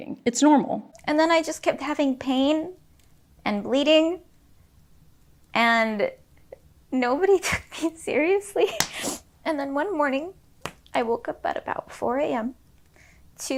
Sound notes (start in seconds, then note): 8.8 sniffles